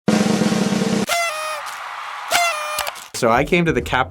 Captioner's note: drum rolling; audience clapping